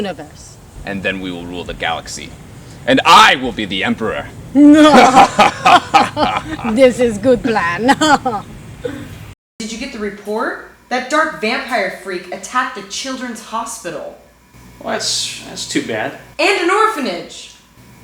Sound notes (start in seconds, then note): 4.6 both laugh; 7.7 laughs